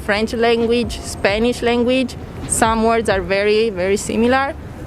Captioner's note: none